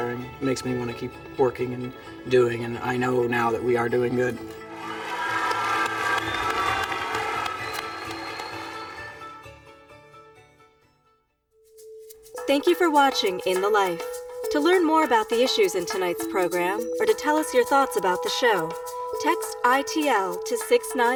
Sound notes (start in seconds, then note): 4.6 students clapping and cheering